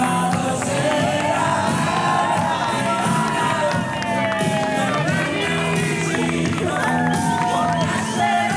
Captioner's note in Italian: Applauso